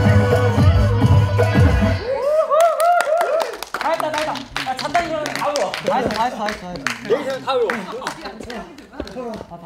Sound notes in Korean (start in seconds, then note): 4.4 열렬한 박수